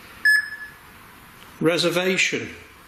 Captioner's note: beeping